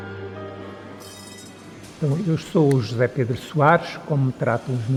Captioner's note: tram sound